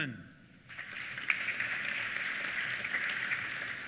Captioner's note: applause